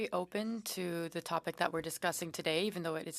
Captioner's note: speaking French